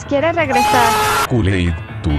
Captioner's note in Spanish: gritos de sufrimiento